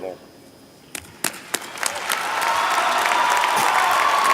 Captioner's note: applause